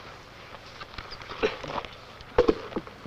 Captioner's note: crunching; soft clank